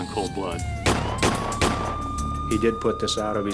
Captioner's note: gunshots